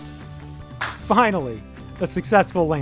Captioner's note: lander thuds